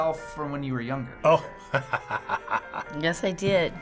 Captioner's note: chuckles